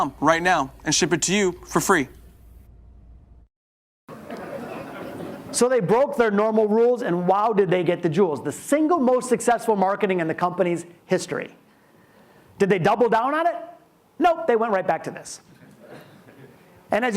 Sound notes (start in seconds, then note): 4.1 audience laughs